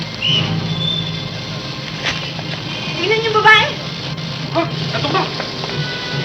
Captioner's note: whistle blowing; people clamoring